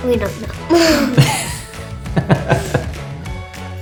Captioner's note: both laugh; upbeat music